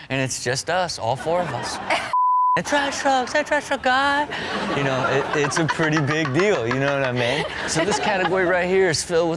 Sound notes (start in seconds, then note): 4.6 all laugh; 7.6 laughing